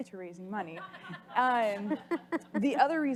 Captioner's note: audience laughs